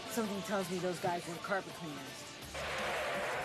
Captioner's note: tires screeching